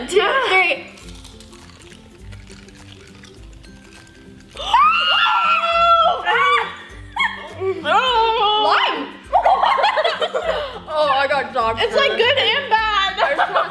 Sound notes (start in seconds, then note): 4.5 screaming; 9.3 laughter